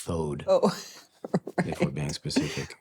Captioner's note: laughing